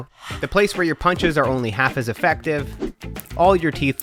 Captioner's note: air whooshing